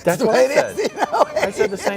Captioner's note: laughs